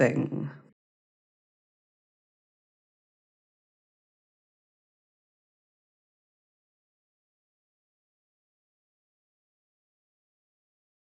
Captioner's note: silence